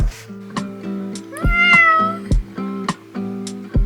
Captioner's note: it's me meowing like a cat